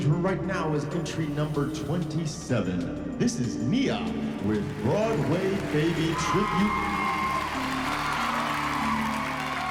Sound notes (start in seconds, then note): 5.9 applause